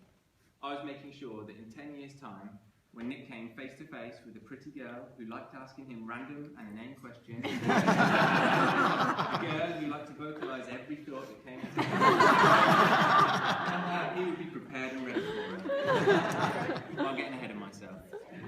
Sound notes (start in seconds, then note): 7.4 laughter; 11.5 laughter